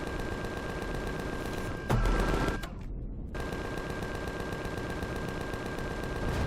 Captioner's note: machine guns firing; machine guns continue; explosion